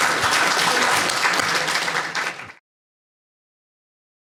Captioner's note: audience applauds